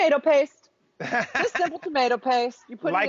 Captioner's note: laughs